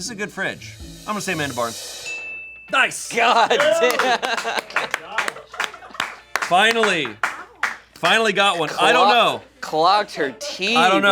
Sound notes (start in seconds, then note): 2.0 bell chimes; 5.3 crew cheers and applauds